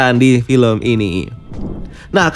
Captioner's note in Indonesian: suara transisi